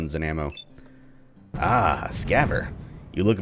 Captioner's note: thunder